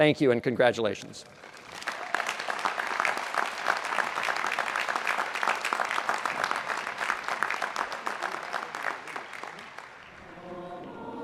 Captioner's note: applause